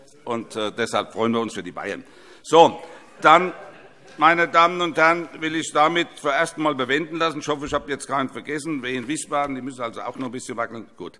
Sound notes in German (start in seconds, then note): 2.9 Heiterkeit